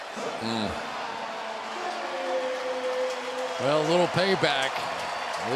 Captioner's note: pa announcement